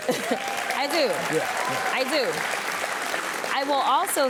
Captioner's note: audience applauds